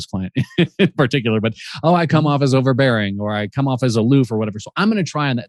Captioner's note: laughs